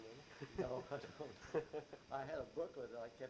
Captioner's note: chuckles; both laugh